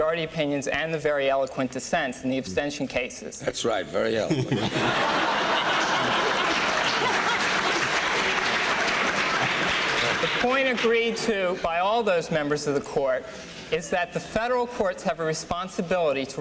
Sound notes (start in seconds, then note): 4.2 laughter